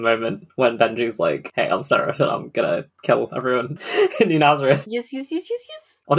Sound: laughs

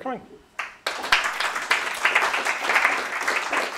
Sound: applause

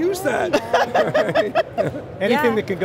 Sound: all laugh

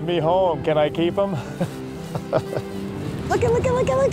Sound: chuckles

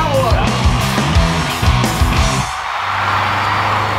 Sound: audience cheering

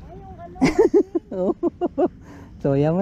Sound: laugh

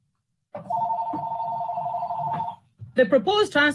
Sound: phone ringing

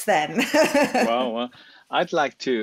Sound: laughs

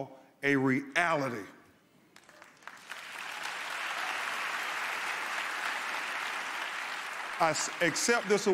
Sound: cheers, applause

